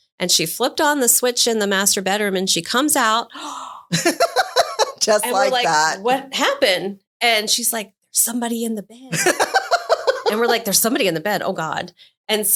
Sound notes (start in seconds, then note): 3.3 gasps